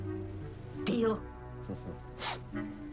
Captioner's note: chuckles